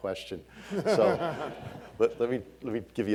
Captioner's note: all laughing